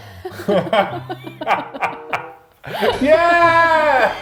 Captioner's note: laughs